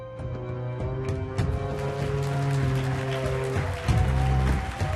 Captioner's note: audience applauds